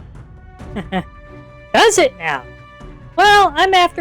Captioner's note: laughs